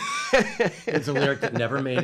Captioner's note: laughs